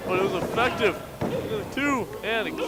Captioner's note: referee bangs on mat